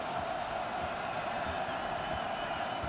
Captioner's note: crowd cheering